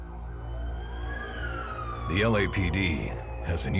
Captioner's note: sirens